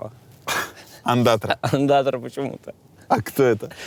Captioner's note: chuckles